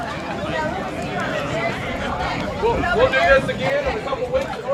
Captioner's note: people chatting